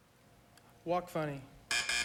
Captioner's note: buzz buzz